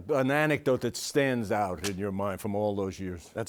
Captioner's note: none